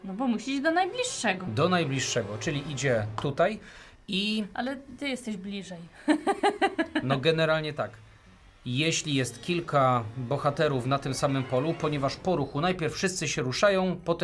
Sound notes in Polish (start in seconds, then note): 6.0 śmiech